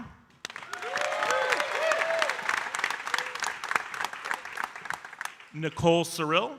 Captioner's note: audience cheering and applauding